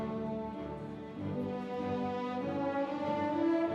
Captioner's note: none